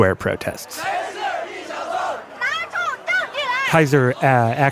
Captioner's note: protest chanting